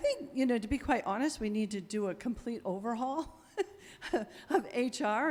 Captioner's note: chuckles